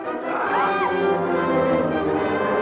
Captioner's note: Pilar screams; adventurous orchestral music